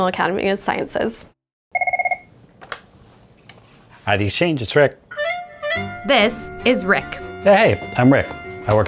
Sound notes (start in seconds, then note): 1.7 phone ringing